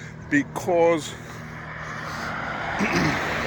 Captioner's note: clears throat